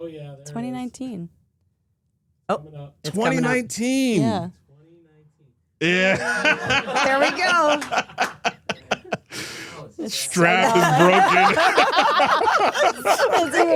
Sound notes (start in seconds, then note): 5.8 laughs; 10.6 Steph and Elyse laughing